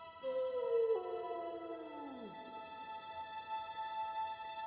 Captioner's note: hushed music; howling continues